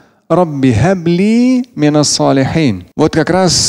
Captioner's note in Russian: Говорит на арабском